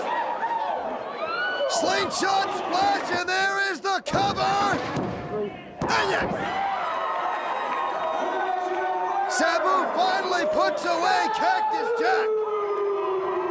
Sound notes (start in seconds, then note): 5.8 crowd cheering